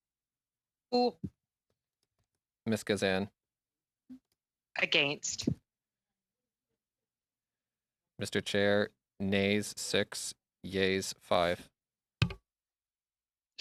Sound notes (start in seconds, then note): 5.4 speaking French